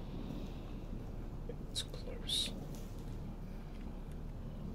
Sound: quietly

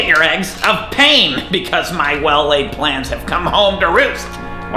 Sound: chuckles

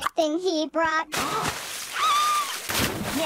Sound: medium splash; big splash; screaming

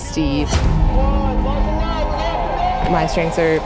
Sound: dramatic music; supporters shouting

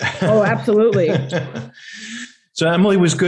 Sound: chuckling

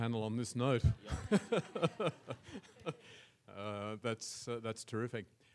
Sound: audience laughs

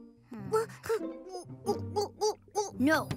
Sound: chokes; gulps

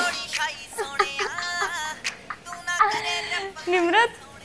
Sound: Karma & Pallavi Laugh

